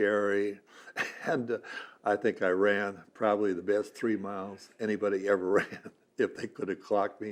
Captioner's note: laughs